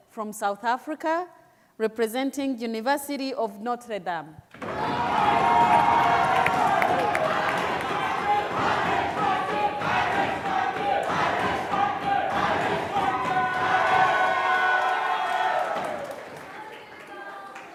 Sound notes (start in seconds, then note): 4.6 applause and cheering; 7.6 crowd chanting